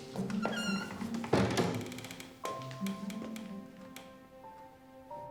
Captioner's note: footsteps plodding; door squeaking and clattering